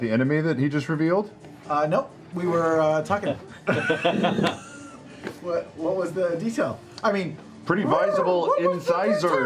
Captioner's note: coo